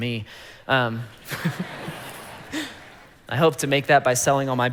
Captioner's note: congregation laughing